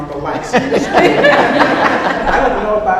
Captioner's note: audience laughs